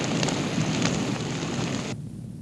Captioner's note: crackle